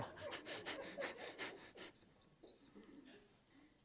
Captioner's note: laughs